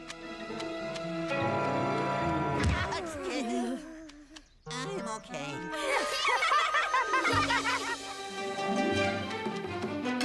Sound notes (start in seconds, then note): 2.4 bang!; 5.7 laughing